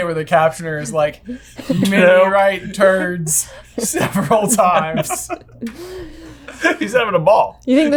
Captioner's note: laughter, including on the captioner's end